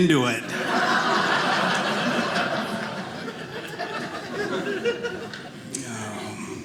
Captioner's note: audience laughing